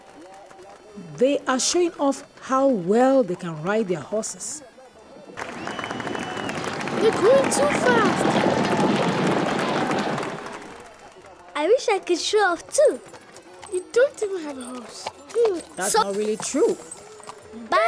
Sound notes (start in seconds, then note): 4.8 crowd cheering; 5.2 crowd applauding